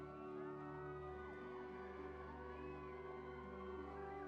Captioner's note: people cheering